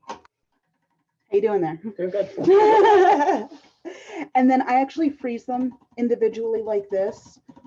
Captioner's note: laughter